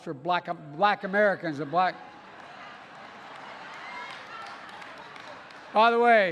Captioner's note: laughter and applause